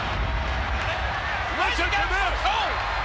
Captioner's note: thunder crashes; crowd cheers